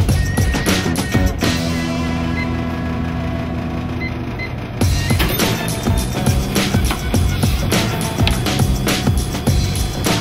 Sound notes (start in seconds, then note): 2.4 machine beeps; 5.0 machine tings open